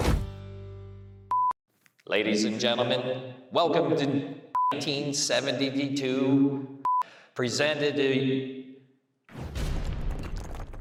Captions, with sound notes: (beep) Ladies and gentlemen, welcome to (beep) 1972, (beep) presented in...